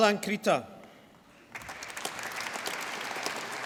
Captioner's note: applause